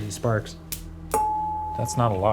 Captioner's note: metal clanking